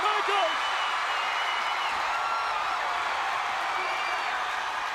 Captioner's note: audience cheering